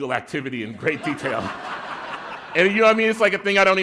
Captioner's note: laughter